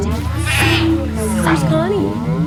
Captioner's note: sheep cries